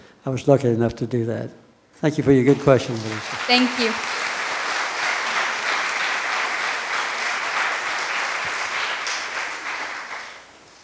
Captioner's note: applause from the audience